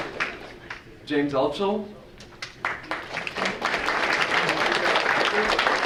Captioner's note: audience applauding